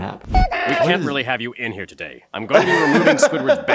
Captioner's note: laughs